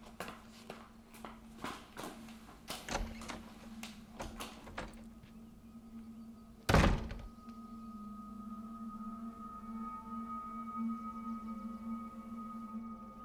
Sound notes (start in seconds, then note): 6.6 door slams